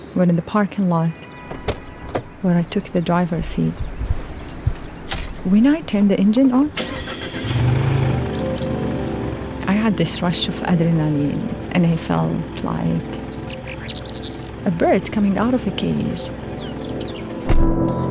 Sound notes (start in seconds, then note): 6.8 car engine revving